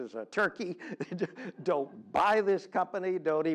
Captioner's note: laugh